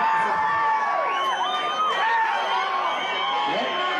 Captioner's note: crowd whistling and shouting